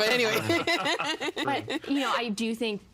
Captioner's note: laughing